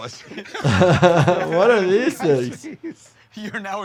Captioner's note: laughs